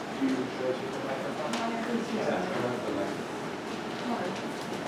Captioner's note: indistinct conversation